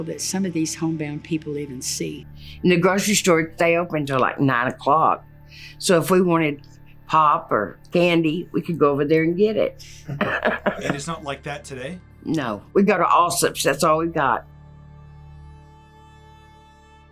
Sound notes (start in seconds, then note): 9.8 laughs